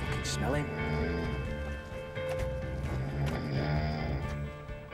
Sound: snoring

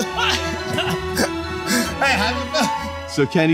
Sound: all laughing

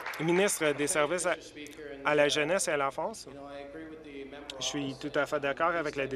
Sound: applause

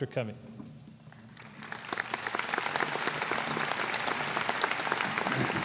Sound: applause

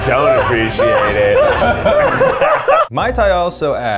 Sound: laughs

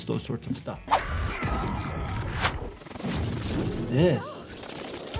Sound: fighter groans

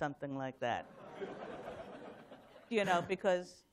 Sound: laughter

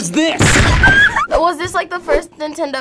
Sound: screams

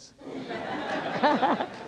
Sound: laughter

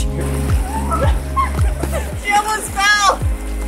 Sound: girls laugh

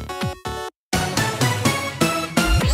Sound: funky sound

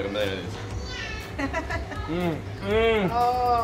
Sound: laughing

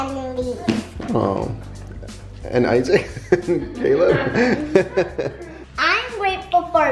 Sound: laughs

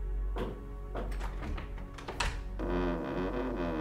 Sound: toilet door opens

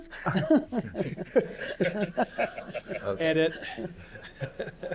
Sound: laughter

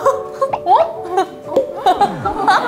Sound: crying?

